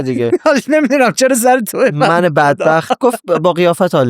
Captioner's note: laughs